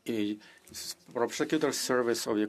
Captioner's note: speaking another language